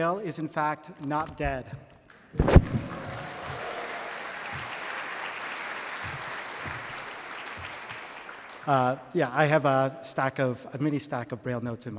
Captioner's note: applause